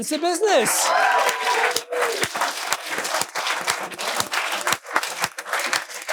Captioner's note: audience cheering and applauding